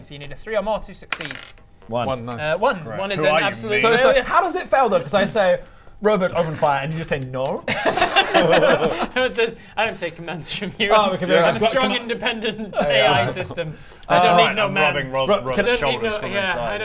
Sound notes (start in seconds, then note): 7.7 rebellious giggles